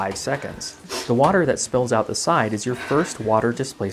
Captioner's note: sharp intakes of breath